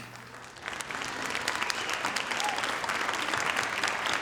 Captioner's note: audience applauding